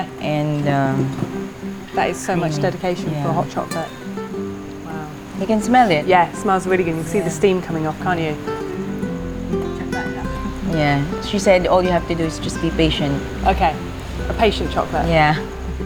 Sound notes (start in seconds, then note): 9.1 speaks in local language